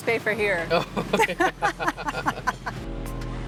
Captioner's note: laughs